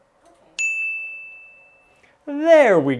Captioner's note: dings